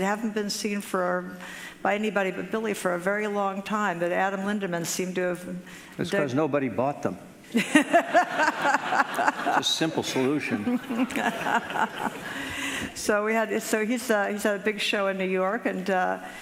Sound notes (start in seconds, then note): 7.5 laughing